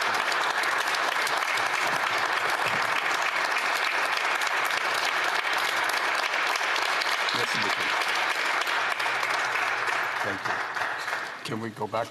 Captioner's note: applause